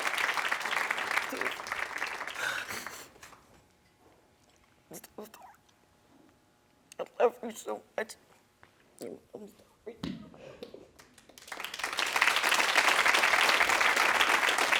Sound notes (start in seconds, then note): 1.7 crying; 11.1 audience applauding